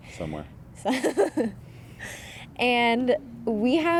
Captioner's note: laughing